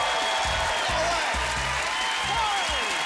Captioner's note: applause